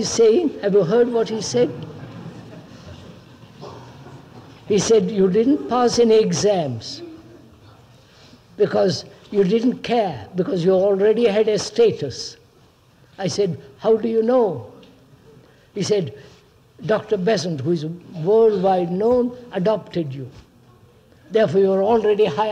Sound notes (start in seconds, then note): 1.8 laughter